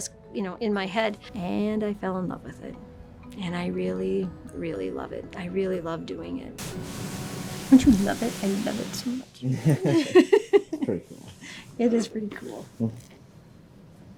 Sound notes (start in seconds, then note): 9.6 laughing; 9.6 videographer laughing